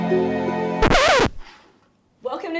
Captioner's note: record scratch